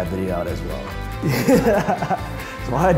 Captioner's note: laughing